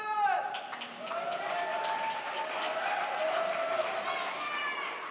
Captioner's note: audience cheers